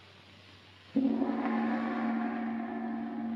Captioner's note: gong strikes